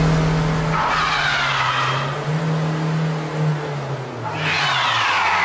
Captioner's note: tires screech